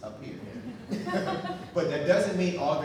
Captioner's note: audience laughing